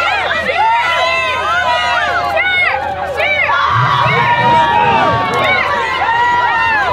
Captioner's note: cheering crowd